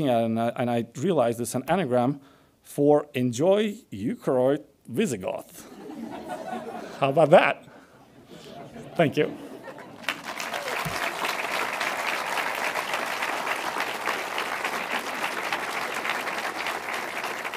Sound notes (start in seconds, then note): 5.6 audience laughs; 9.7 audience claps